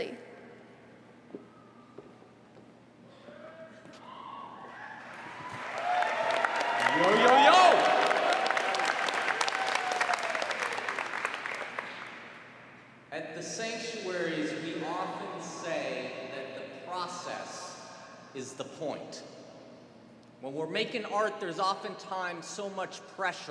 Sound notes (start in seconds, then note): 5.0 applause